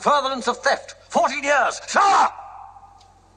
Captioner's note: shouts